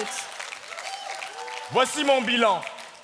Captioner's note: audience cheering and whooping; speaking in French